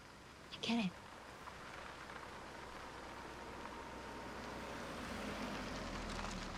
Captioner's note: car approaching